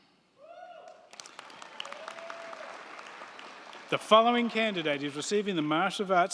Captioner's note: crowd cheering; crowd clapping